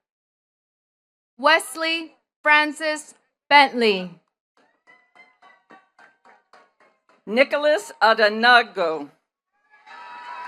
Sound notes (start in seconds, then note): 4.6 attendees clapping; 9.6 attendees cheering and clapping